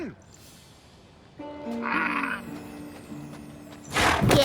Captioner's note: grunts